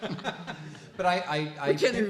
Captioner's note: laughing